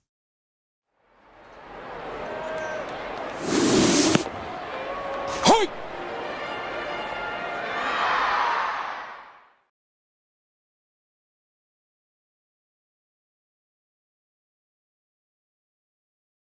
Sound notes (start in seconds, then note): 2.0 cheering